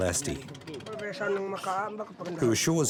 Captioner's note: speaking Austronesian language